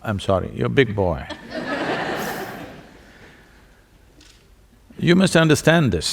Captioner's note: laughter